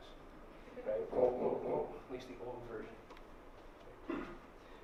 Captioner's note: imitating the Grinch grunt